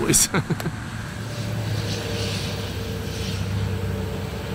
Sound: highway traffic

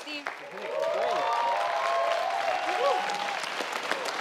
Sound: audience cheering

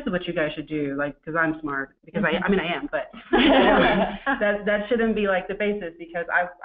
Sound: laughter

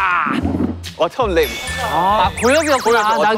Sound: ding dong

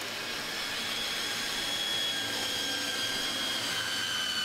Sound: drill squealing loudly

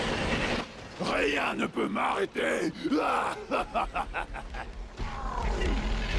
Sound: evil laughter

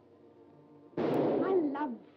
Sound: gunshot blares

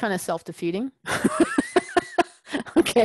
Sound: laugh

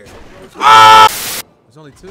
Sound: yells; static

